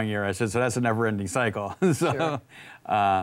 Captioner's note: laughs